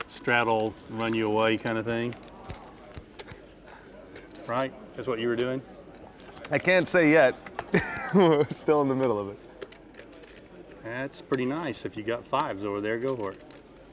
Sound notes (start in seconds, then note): 7.7 laughing